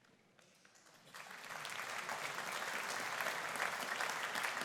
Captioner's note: audience applauding